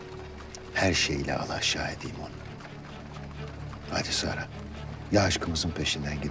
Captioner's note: none